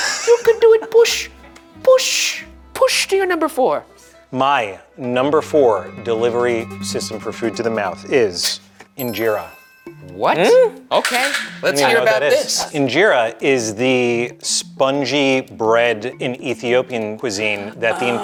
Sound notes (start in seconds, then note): 0.0 laughing; 9.0 bell chiming